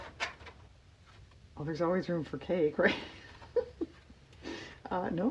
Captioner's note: laughs